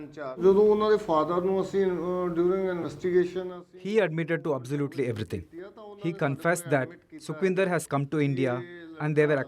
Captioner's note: speaking alternate language